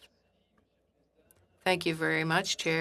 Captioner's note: speaking French